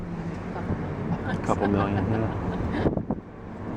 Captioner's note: chuckles